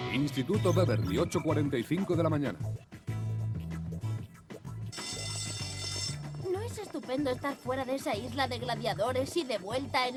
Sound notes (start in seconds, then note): 4.9 school bell ringing